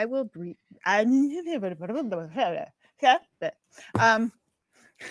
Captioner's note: speaks gibberish